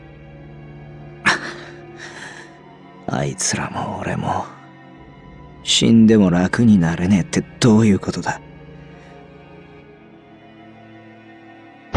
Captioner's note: sigh